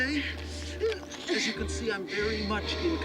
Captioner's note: groans